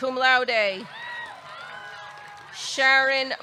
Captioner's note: audience cheering; audience clapping